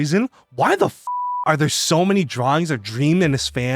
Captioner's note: beeps